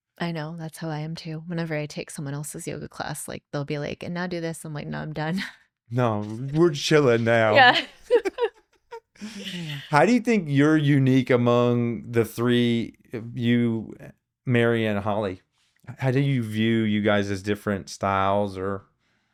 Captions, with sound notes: I know, that's how I am too. Whenever I take someone else's yoga class, like they'll be like, and now do this. I'm like, no, I'm done. No, we're chilling now. Yeah. (both laughing) How do you think you're unique among the three of you, Mary and Holly? How do you view you guys as different styles or?